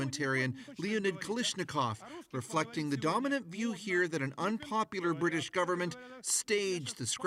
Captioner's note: speaking russia